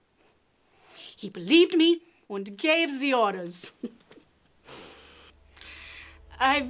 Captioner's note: laughs